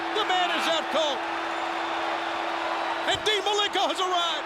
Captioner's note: applause